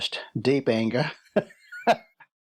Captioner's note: laughs